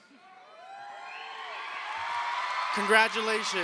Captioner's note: crowd cheers